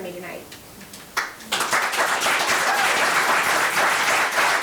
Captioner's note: members applauding